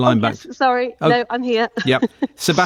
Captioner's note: chuckles